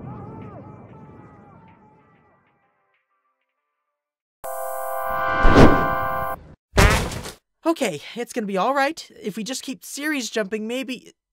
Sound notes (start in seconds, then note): 5.2 loud crashing